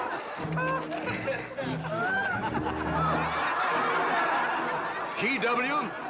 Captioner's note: crowd laughing